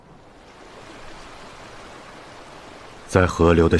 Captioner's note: sounds of the river running